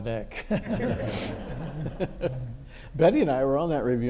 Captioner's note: everyone laughs